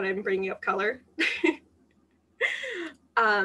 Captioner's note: laughter